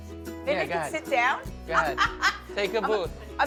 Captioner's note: laughs